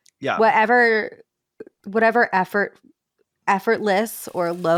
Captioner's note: bacon sizzling